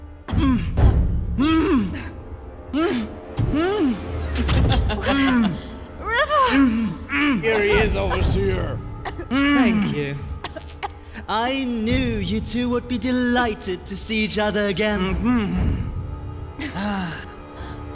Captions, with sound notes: [groaning] [ominous laughter] RIVER! Here he is, Overseer! Thank you. I knew you two would be delighted to see each other again! Mmmmmgmmhmmhmhm! Ah...